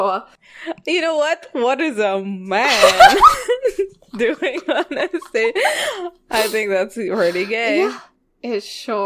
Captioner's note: both laughing